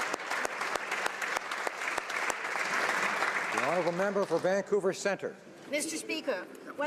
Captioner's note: applause